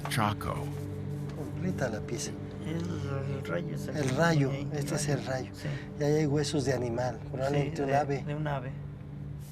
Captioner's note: speaking Spanish